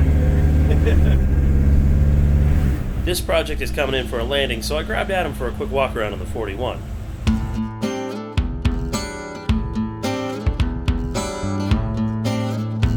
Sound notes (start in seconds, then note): 0.2 laughing; 7.2 acoustic guitar music